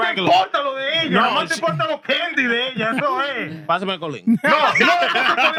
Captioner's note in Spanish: Hablando en idioma extranjero; Riendo; Hablando en idioma extranjero